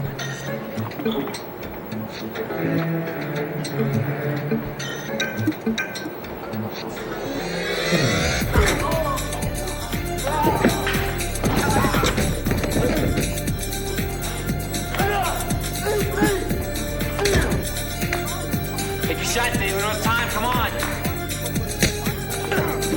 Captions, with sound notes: (dramatic techno music) (terrorist groans) - Get your shot David, we don't have time, come on.